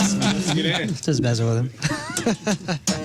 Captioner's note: laughing